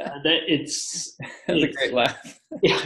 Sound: laughs

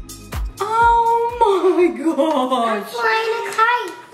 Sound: laughs

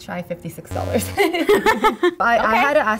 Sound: both laugh

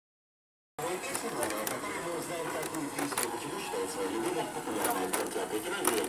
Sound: the radio is on and the speaker is talking

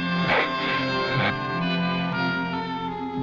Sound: grunting

